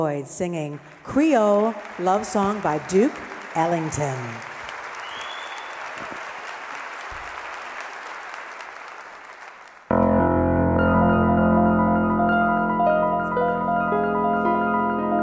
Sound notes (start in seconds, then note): 4.3 audience applauding; 9.9 piano playing